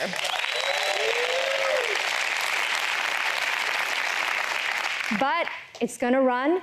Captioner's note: applause